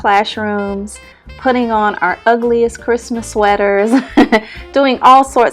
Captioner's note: chuckles